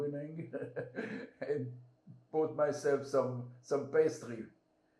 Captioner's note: laughing